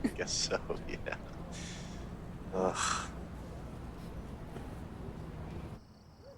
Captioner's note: laughs